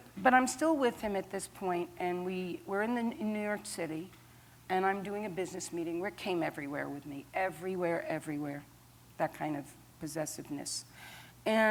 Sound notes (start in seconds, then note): none